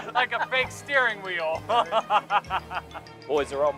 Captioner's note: laughter